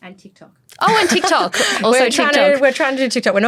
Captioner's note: laughs